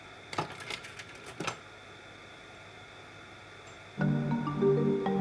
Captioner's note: slide-projector clicks; playful marimba music